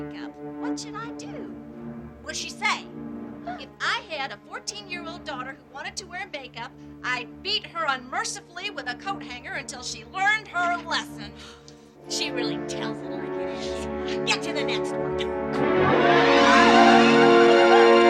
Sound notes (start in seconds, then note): 2.2 voiceover